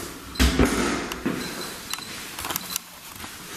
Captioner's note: beeping